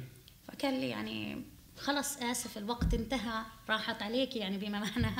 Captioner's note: speaking arabic